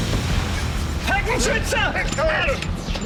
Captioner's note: gunshot; non-english speech